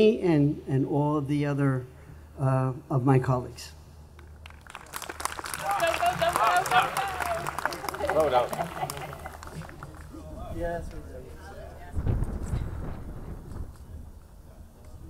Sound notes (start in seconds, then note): 4.1 audience clapping; 8.9 laughs